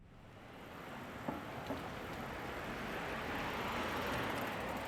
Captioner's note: cars whooshing